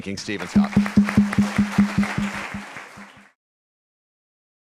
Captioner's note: applause